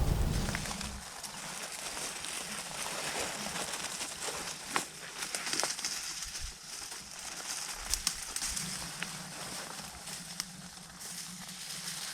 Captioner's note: natural noises/crunching; cows / wind